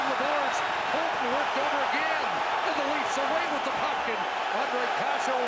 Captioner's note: cheering and APPLAUSE